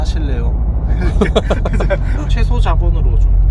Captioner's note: laughs